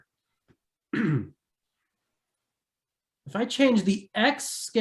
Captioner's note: clears throat